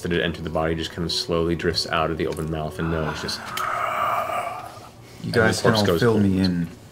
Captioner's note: gasps